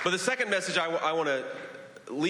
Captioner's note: applause